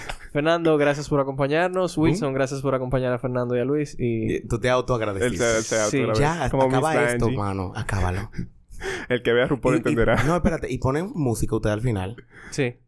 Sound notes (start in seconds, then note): 0.2 laughs; 9.6 laughs